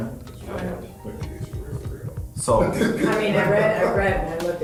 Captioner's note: laughs